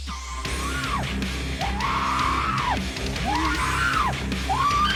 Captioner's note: prisoner screams